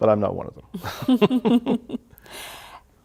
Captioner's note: laughter